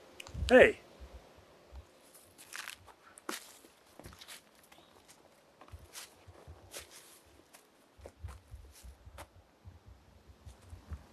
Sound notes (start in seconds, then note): 3.9 footsteps; 8.2 forest din